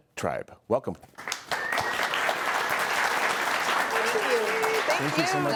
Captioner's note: audience applauding